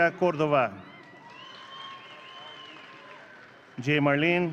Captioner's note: audience cheering